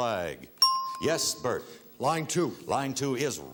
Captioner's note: ting